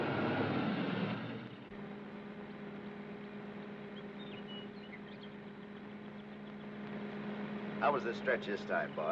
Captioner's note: car accelerates away; car engine hums; birds chirp